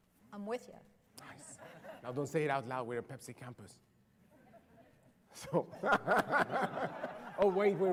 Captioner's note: laughter